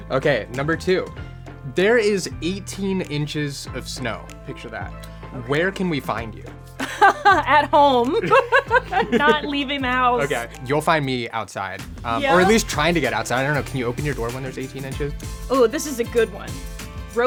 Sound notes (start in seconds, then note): 6.8 laughs